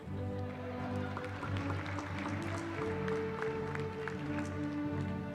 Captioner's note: applause